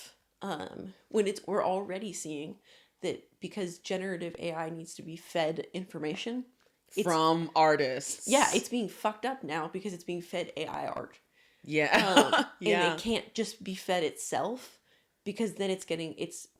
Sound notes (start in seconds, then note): 11.9 laughing